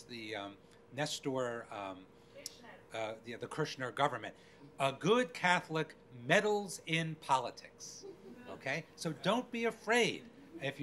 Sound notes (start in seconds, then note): 8.1 crowd laughing